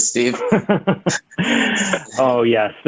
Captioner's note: laughs